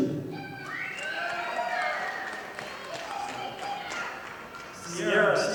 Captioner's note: audience applauding